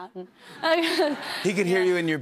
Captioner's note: laughs